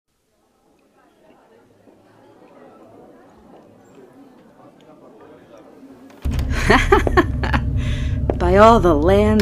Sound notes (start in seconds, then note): 0.2 tavern sounds; 6.2 door opens, footsteps, laughter